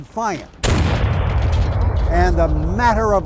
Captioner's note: cannon booms